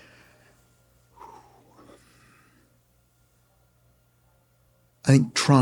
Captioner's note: exhales